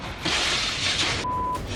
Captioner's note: glass shattering